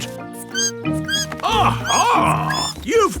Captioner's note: bat squeaking